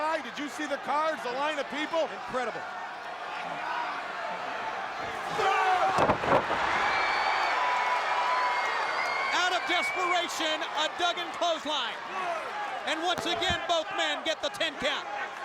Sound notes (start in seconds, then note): 5.7 crowd cheers